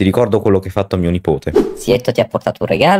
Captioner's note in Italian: whooshh